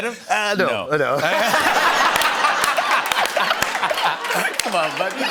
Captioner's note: laughter